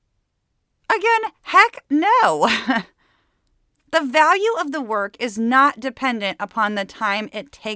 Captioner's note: laughs